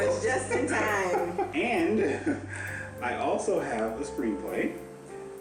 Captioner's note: laughing